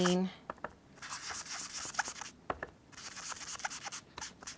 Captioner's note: blending tool scrubbing